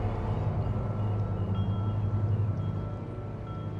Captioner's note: les cloches sonnent